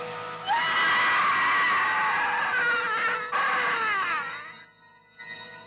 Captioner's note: intro Music; scream; suspenseful music